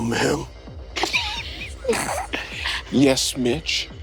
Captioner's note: players chuckle